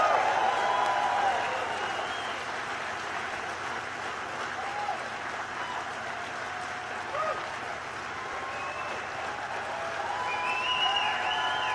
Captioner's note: cheers